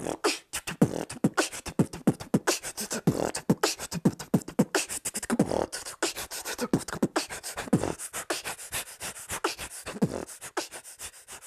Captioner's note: beatboxing